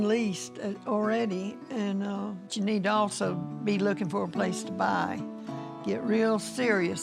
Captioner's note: none